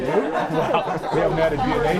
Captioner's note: laughing